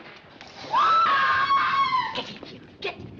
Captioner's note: screaming